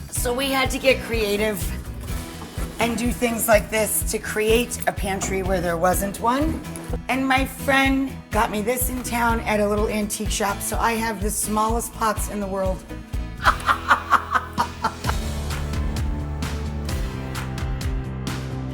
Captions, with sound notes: so we had to get creative and do things like this to create a pantry where there wasn't one. And my friend got me this in town at a little antique shop, so I have the smallest pots in the world. (laughs) (upbeat music)